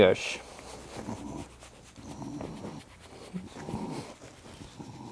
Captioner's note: dog snoring softly